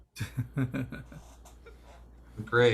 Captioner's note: chuckles